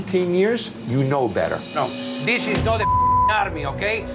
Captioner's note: beep